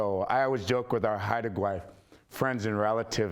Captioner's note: speaking in foreign language